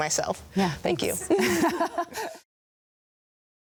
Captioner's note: both laugh